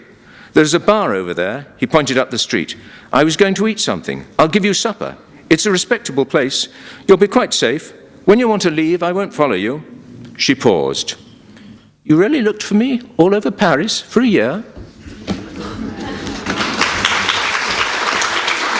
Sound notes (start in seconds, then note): 16.2 applause